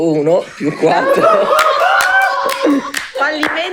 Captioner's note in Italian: Risate